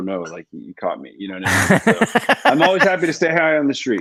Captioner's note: laughs